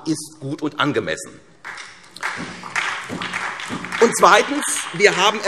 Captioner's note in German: Beifall SPD